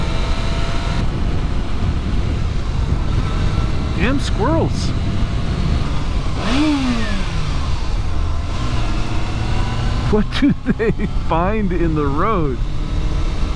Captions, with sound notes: Damn squirrels! [Engine rev] [Laughing] What do they find in the road?